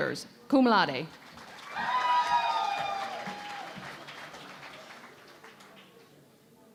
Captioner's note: cheering and Applause